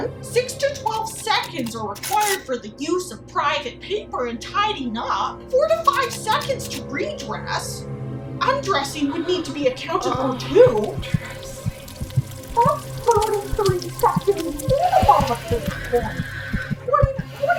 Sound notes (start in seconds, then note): 12.1 sizzling sound and C's heart racing; 14.3 C: sensual gasping and deep breathing